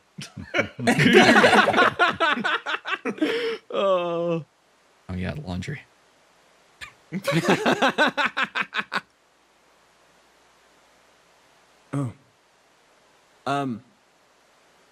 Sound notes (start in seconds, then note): 0.2 laughs; 7.1 laughs